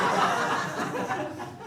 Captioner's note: audience laughing